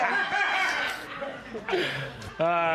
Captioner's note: laughter